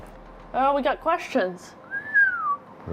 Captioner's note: whistles